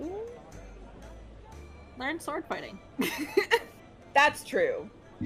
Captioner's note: laughs